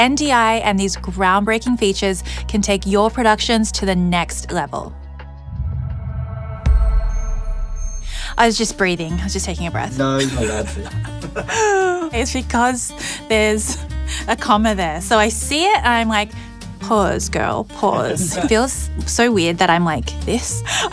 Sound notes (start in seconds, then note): 5.3 gentle solemn music; 10.2 laughs; 13.0 gasps